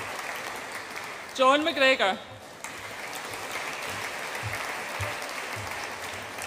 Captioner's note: audience applauds and cheers; audience applauds